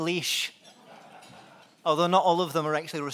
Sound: laughing

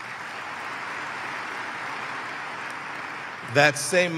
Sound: applause

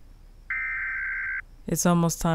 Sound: emergency warning beeping

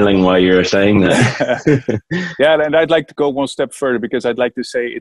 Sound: laughs

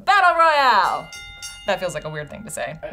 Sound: bell dings

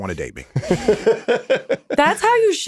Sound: Justin laughing

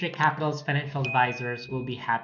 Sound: bell dings

